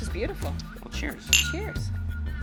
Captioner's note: cups clink